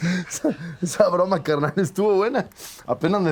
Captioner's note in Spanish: Riendo